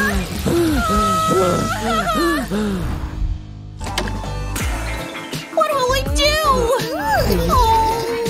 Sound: groans

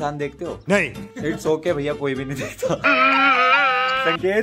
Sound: cries

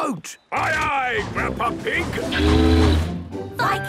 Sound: tooting; all singing

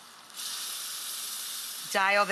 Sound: sizzling

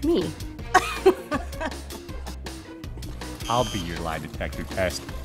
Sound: laughs; buzzer

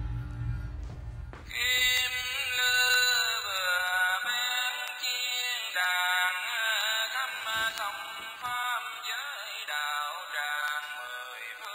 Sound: radio is playing Buddhist scripture

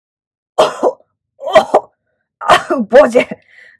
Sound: coughing

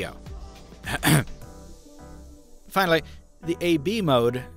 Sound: clears throat

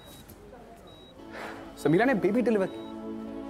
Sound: sighs

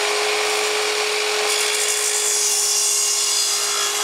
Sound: loud whirring, harsh sawing noise

